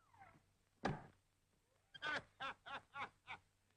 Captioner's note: raucous laughter